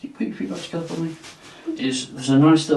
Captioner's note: clothing rustling